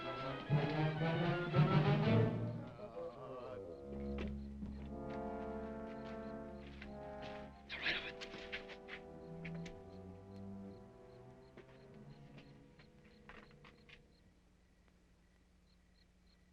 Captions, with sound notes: (dramatic music) They're right over there. (insects chirping)